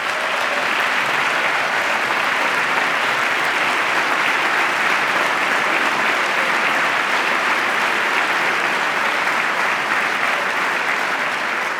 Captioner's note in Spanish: aplauso